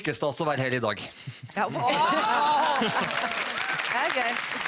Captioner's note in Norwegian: Applaus